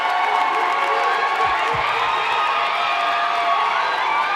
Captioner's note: audience cheering